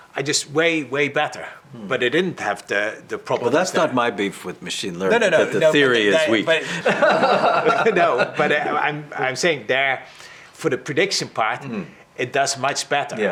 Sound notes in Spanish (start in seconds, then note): 6.2 risas